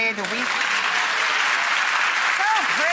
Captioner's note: audience clapping